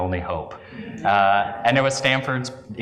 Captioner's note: laugh